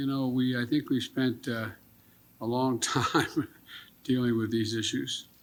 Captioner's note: laughs